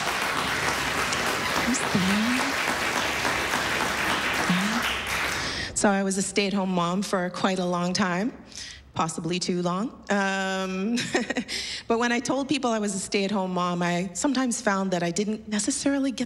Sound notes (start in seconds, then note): 0.0 laughter, applause; 11.7 chuckles